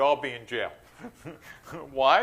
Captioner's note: chuckles